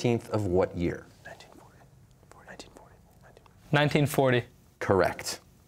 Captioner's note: whispering